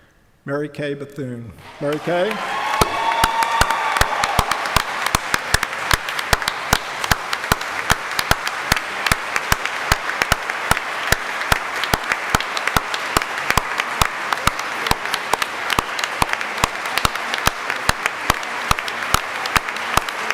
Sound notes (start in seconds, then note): 2.8 applause, cheering; 7.7 applause